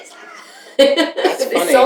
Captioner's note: laughter